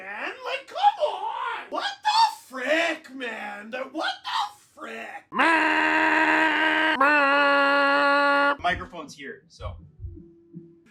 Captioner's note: goal horn noises